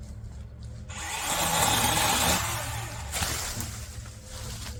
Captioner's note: chainsaw revs